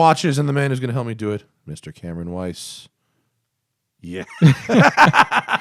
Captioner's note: laughter